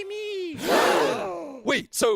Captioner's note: gasp